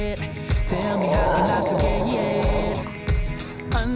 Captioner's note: dog growling